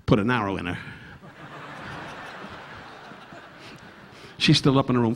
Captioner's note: audience laughing